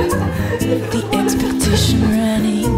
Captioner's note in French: rires